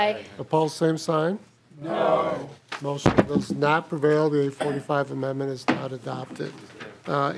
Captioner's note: chorus of ayes